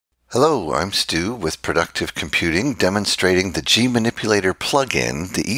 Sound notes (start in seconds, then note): 0.4 voiceover